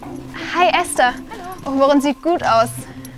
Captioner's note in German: Wiehern